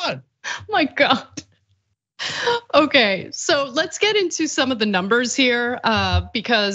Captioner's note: laugh